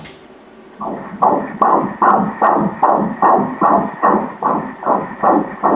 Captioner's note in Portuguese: batimentos cardíacos